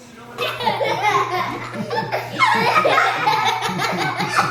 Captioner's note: children laughing